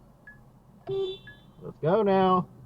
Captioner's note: Lyft ride alert; beep